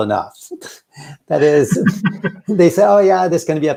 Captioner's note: laughs